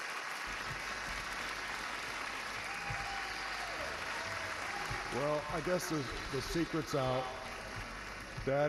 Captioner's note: applause